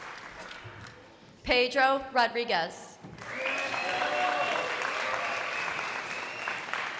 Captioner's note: crowd applauding